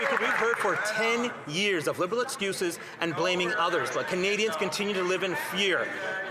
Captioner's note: some Applause